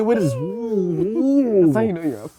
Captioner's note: screaming